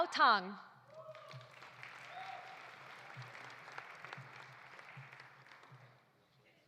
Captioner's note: audience applauding; audience cheering